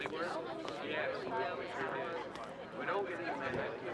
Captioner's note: guests chattering